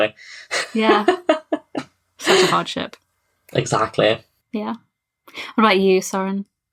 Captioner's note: laughs